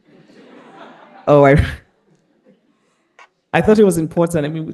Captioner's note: all laughing